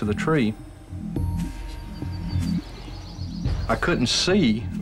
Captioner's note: footsteps